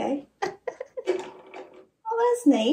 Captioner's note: laughing